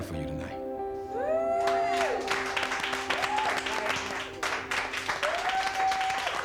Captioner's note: crowd cheering; crowd clapping